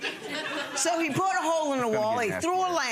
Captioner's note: audience laughing